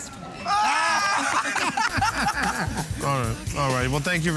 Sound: laughing

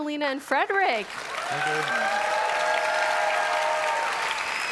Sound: audience applause

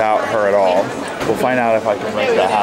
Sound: passersby murmuring

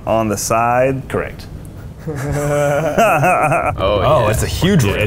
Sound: all laughing

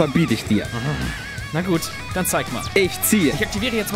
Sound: grumble

